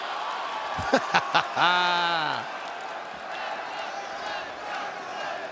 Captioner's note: laugh